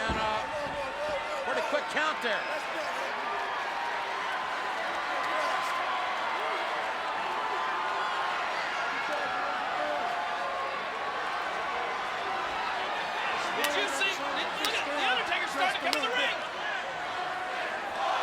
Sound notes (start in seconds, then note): 3.8 audience cheers; 9.2 Stone Cold speaks faintly